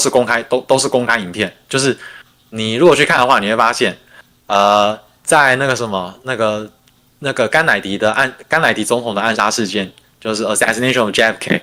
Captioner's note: non-english speech